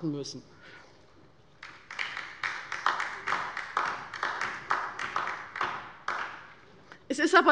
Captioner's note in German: Beifall bei der LINKEN